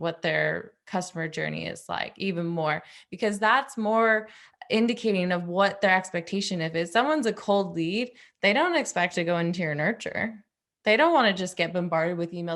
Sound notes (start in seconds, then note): none